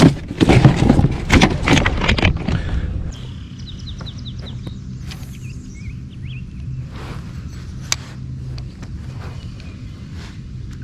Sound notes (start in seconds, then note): 0.1 fish flopping; 2.5 birds chirping